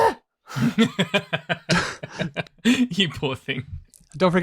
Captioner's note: laughs